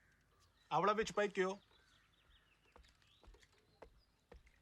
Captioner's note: speaking foreign language